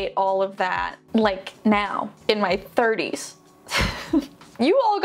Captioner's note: laughs